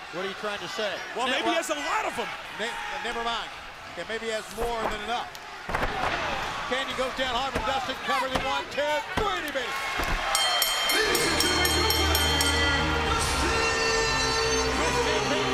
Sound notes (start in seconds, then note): 10.2 bell ringing